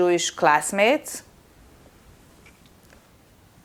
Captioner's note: pauses 8 seconds